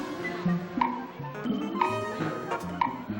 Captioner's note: ticking